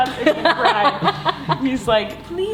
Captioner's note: laughing